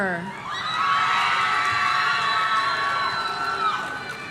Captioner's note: audience cheering